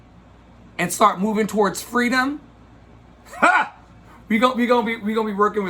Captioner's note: laughs